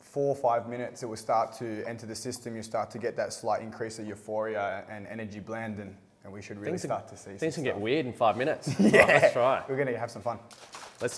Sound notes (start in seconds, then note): 8.6 laughs